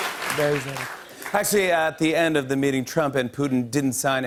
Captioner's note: normal voice